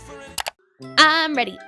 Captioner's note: clicking